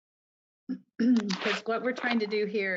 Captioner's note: woman clears throat